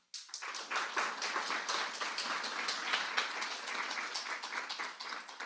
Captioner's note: applause